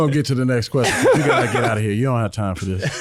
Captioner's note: laughing